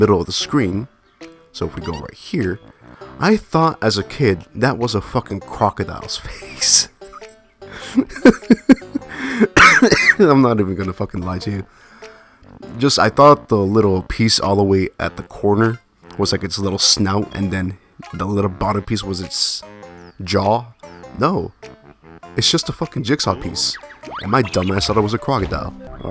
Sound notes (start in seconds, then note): 7.7 laughs; 7.8 coughs Laugh